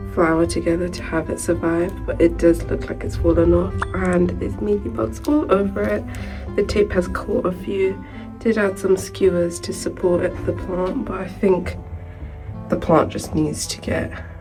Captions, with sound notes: flower together to have to have it survive but it does look like it's fallen off (notification sound) and there's mealybugs all over it. The tape has caught a few did add some skewers to support it the plant, but I think the plant just needs to get